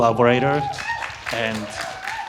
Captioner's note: audience hooting and clapping